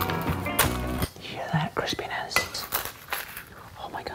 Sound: whispers

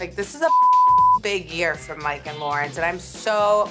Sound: beep

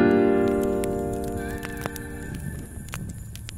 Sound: fire crackling

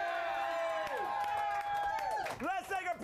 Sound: audience cheering

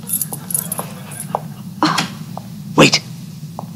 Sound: feet shuffling; crowd laughs

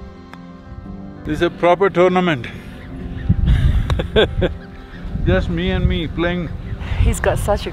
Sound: laughs

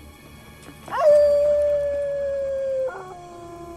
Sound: wolf howl

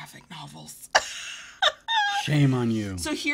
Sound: laughs

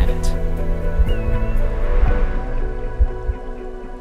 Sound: heart beating

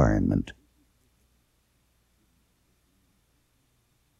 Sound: silence

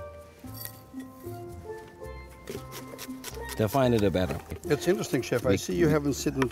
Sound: chopping

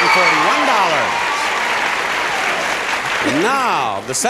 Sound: audience applauding and cheering

